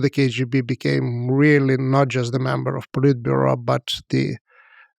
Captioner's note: speaks foreign language